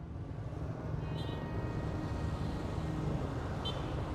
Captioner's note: traffic noises